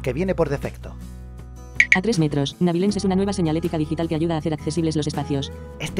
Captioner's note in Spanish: Click. Click